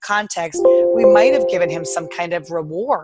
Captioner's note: computer chimes